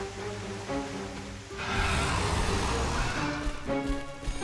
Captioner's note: growls